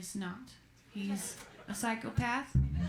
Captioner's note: laughter